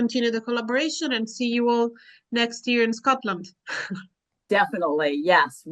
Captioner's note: chuckles